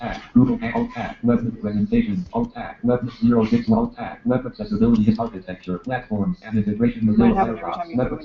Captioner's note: laughter